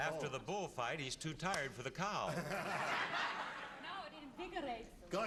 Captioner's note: laughter